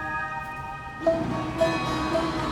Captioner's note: none